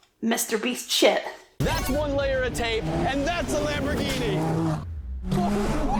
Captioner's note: scream!